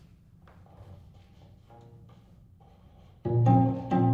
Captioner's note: click